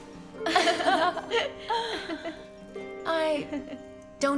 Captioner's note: Elizabeth giggles